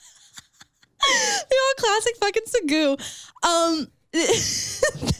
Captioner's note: laughing; laughs